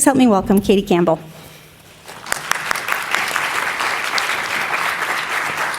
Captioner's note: audience applauding